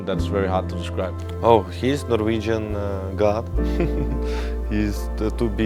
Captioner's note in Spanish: ríe